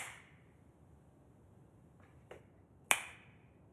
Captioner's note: fingers snapping